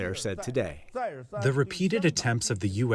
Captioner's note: through translator